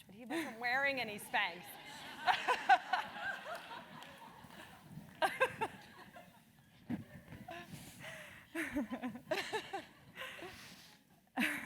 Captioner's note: laugh